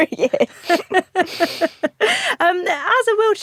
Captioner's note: both laugh